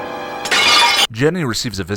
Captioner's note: smash